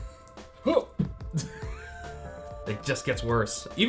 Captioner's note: laughs